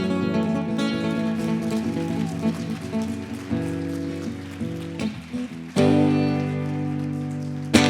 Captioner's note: applause